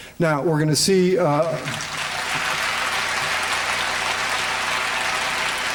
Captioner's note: applause